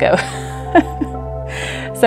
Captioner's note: laughs